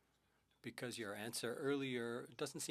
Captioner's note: speaking French